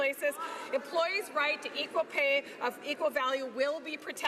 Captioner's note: none